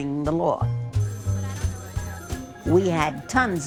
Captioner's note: phone ringing